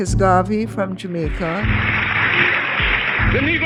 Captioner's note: soundbite of archived recording